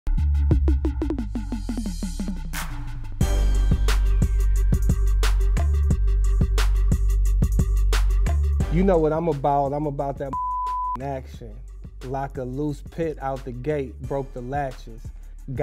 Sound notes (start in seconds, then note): 0.0 hip hop music; 10.3 beep